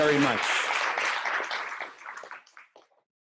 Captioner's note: applause